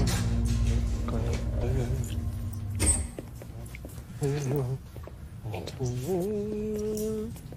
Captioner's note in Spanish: Horacio tararea